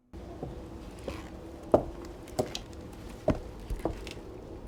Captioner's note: footsteps padding